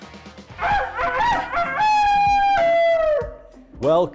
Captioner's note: crowing sounds